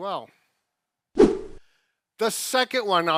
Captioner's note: whooshing